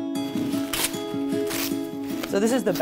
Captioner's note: paper rasps